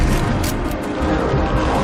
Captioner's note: gun clicks